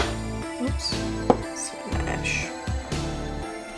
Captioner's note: slams glass on table